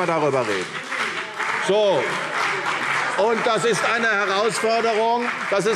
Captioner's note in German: Beifall CDU und BÜNDNIS 90/DIE GRÜNEN